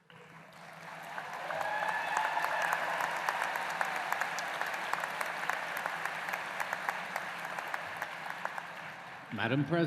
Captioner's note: applause